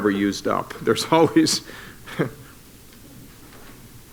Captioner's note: chuckles